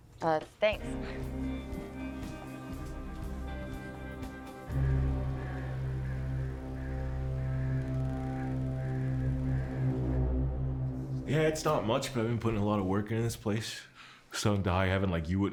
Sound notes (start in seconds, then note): 1.2 light music; 5.0 crows cawing; 5.0 foreboding music